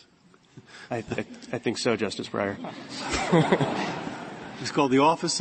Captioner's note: laughter